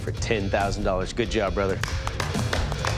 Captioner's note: applause